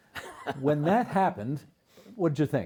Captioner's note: laughing